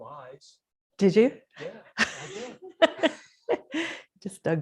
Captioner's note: laughs